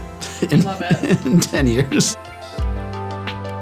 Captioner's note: laughing